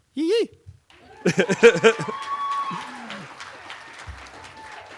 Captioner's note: cheering